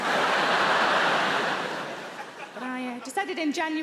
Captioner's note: audience laughing